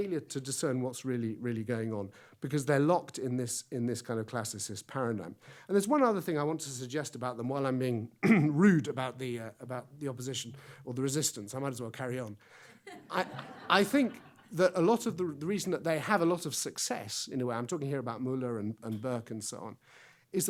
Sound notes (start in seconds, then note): 12.8 audience laughs